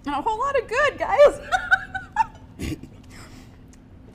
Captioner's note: laughs